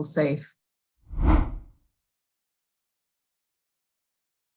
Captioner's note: air whooshing